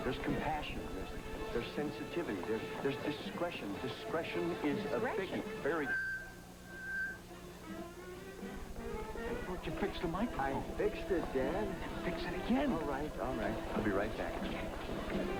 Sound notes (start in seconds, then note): 5.7 microphone feedback